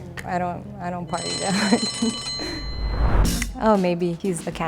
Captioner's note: alarm bell dings